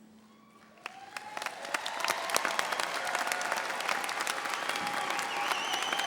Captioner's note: audience applauding and cheering